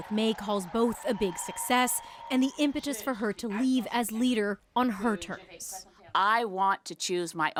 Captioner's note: cheers and Applause